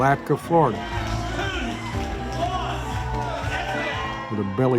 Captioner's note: crowd cheers